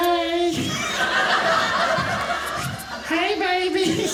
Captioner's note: audience laughing